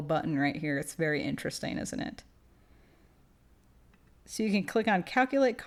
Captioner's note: clicking